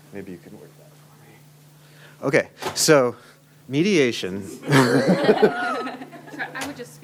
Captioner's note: laughter